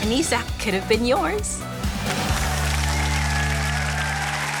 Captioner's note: applause